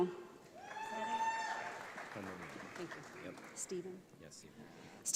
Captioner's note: audience applauds